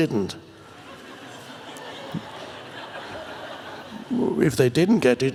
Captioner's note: audience laughs